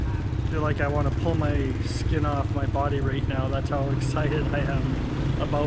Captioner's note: laughs